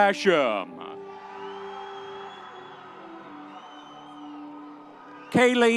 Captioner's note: audience cheering